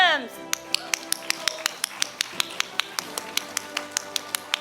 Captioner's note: audience applauding